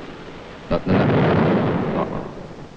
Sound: explosion

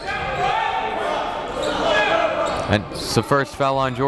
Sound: cheering and yelling

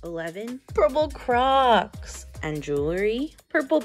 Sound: none

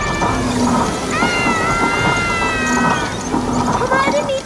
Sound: children screaming

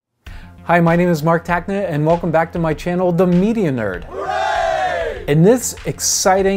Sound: group cheer

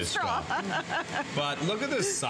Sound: laughter

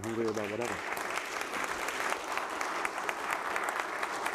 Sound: audience applauds

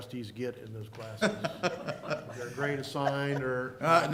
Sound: laughter

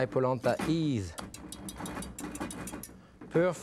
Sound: tapping whisk

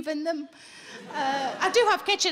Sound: audience laughing

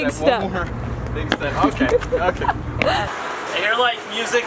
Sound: laughing

